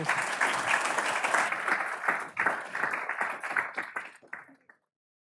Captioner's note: audience applauds